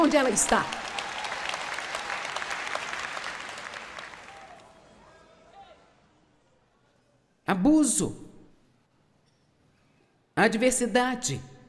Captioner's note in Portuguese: audiência aplaude